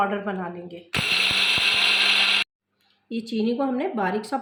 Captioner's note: grinding